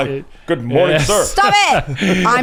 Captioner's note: laughs